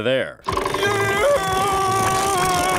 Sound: screaming

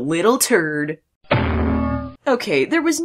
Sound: sound of anvil falling

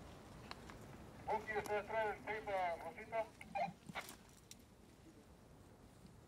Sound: man on radio speaks Spanish

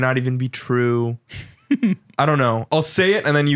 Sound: laughs

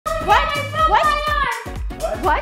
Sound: yelling

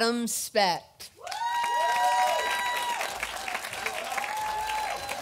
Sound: audience applauding

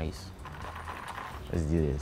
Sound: ice rattling

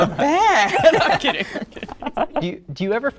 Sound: laughs

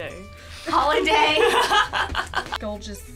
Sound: laughs

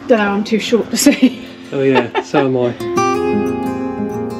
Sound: laughter

